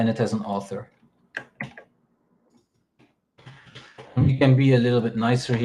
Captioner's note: keyboard clacking